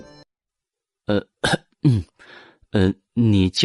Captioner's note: clears throat